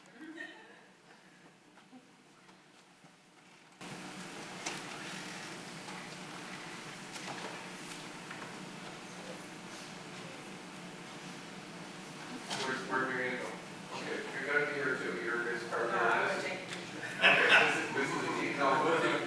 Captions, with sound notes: - Where we gonna go? Okay. (people chatting)